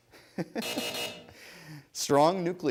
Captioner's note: buzzing